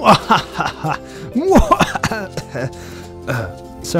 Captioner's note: cough cough